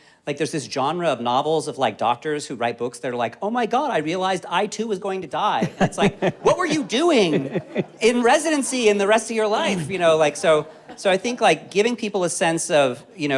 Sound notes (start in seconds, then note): 5.5 all laughing